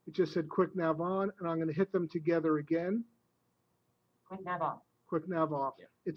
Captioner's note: software speaks